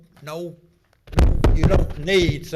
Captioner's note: microphone feedback